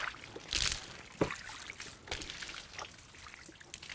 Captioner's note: water splashing